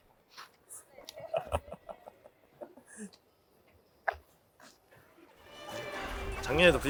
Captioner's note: ha ha ha